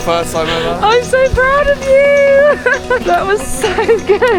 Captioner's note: laughs